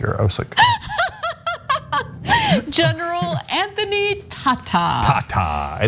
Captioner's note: laugh